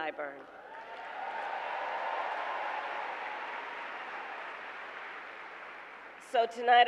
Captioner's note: applause